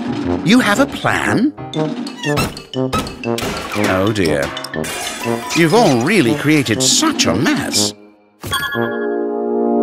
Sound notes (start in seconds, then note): 3.0 objects crashing